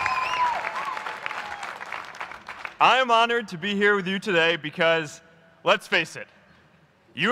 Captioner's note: applause